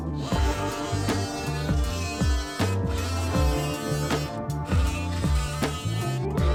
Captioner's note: lively music; multi-tool whizzing